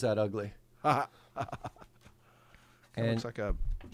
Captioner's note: laughing